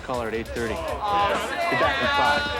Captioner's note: booing